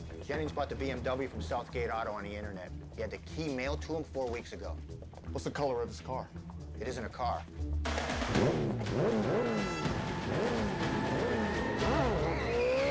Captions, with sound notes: Jennings bought the BMW from South Gate Auto on the Internet. He had the key mailed to him four weeks ago. What's the color of his car? It isn't a car. ( engine revs )